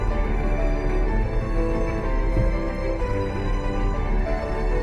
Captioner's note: struggling engine sound